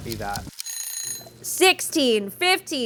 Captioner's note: alarm ringing